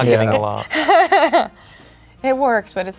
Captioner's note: chuckles